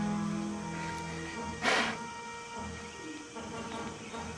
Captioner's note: blowing